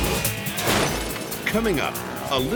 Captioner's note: graphics whooshing; upbeat pulsating music; glass shattering; graphics thump